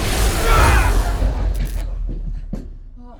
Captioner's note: yelling